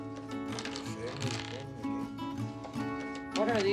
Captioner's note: pegs rattle